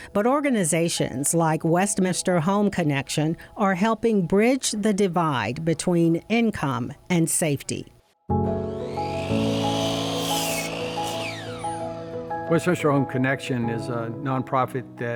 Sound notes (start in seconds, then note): 8.2 gentle music; 8.6 circular saw whirring